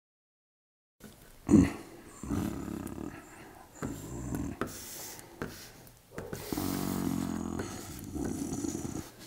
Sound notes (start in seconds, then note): 1.4 grunting softly and thoughtfully; 6.2 shuffling